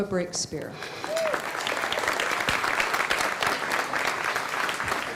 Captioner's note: applause